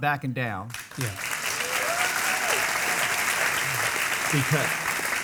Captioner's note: audience clapping